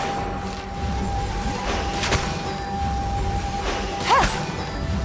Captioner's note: none